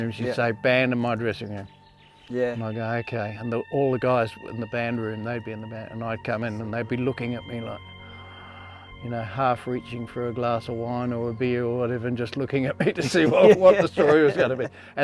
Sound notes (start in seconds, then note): 8.2 gasps softly